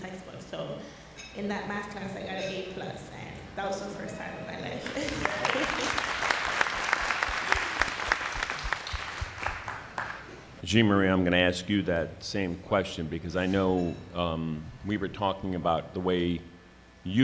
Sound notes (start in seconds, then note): 4.8 applause